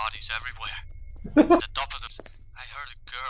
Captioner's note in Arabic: يضحك